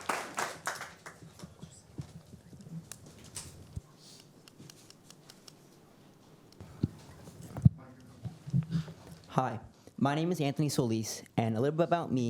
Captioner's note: applause